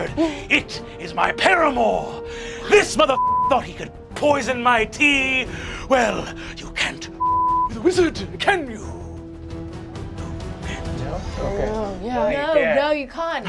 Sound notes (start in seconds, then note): 3.1 beeping; 7.2 beeping; 12.2 group agreeing, overlapping